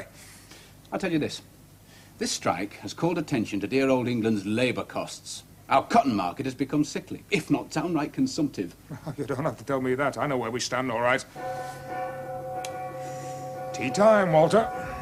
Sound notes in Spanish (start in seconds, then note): 11.3 Suena un gong